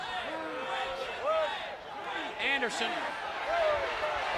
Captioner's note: crowd chatter